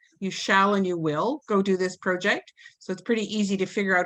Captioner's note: none